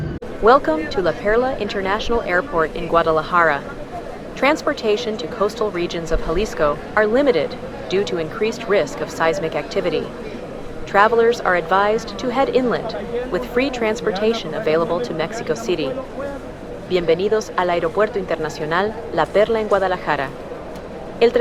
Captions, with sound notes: Welcome to La Perla International Airport in Guadalajara. Transportation to coastal regions of Jalisco are limited due to increased risk of seismic activity. Travelers are advised to head inland, with free transportation available to Mexico City. [repeated in Spanish] Bienvenidos al Aeropuerto Internacional La Perla en Guadalajara.